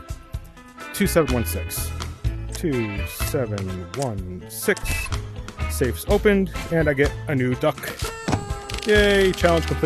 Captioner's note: party horn